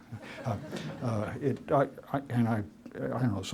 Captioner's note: laughter